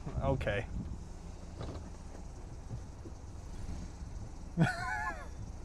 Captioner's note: laugh